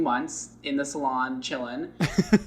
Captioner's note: laughs